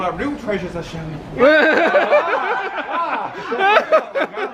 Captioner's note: all laughing